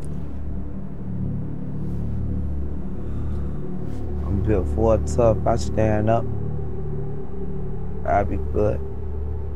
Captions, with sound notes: (Billy exhaling) I'm built Ford tough. I stand up. I'll be good.